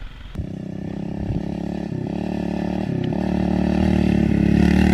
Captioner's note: engine humming